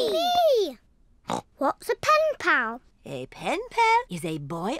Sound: snorts

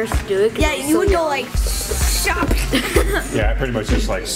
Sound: falling sound effect

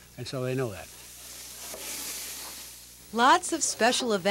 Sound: meat sizzling

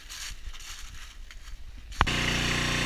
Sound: loud log splitter

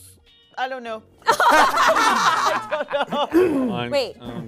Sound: group laughing

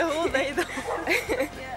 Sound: laughing; dog barking

